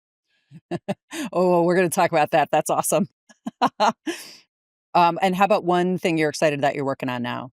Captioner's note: laughs